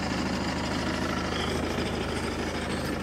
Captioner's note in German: Motorgeräusch